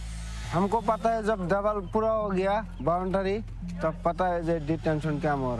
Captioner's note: speaking foreign language